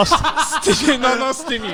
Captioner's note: all laughing loudly